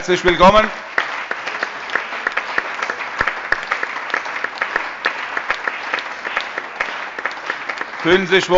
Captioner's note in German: Allgemeiner Beifall